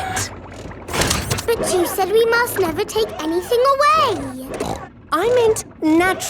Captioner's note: snorts